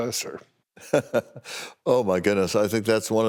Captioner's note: laughing